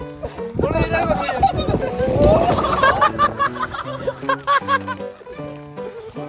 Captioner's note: laughter